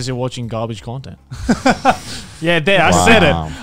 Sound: chuckling

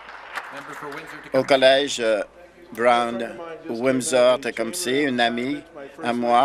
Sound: applause

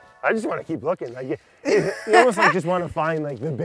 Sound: chuckles

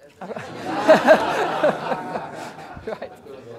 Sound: laughter

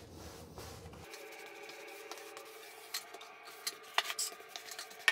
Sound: grout float sweeping

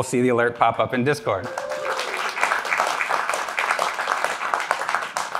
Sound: applause

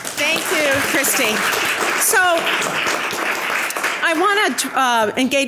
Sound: audience applause

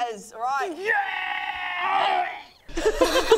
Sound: gaaaarrghghrghgghgh; overconfident giggles

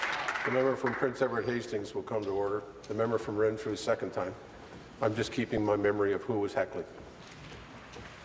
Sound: applause

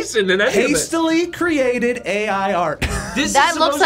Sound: laughs

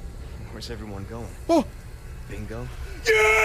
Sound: gasps

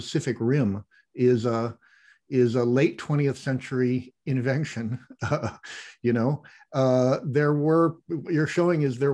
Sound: chuckle

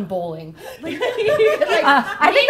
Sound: laughing

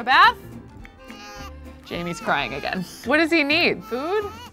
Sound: baby cries

